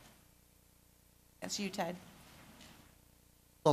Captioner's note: pause